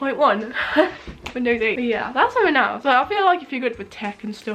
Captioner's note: laughs